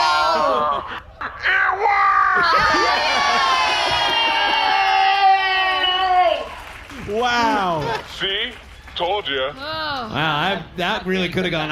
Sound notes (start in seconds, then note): 2.5 happily; 7.2 audience cheers